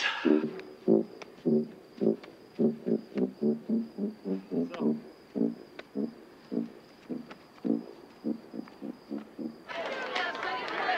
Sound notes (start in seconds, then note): 5.2 people chattering; 9.6 cheerleaders clapping